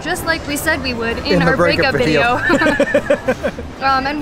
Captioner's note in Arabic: يضحك